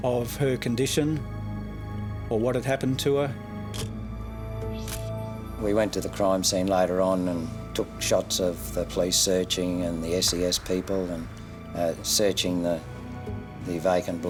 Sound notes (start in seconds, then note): 4.8 camera shutter click